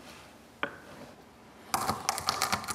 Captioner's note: crack